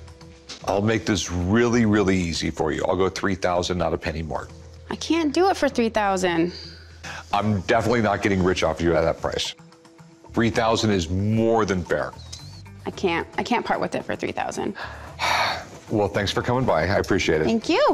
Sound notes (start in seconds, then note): 14.8 sighs